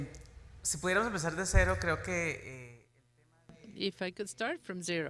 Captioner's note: speaks in foreign language